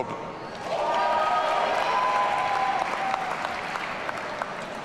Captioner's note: audience cheering